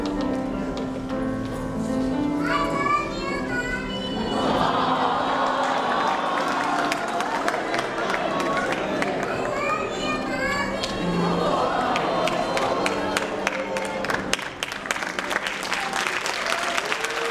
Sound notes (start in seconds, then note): 4.9 audience awww-ing; 11.9 applause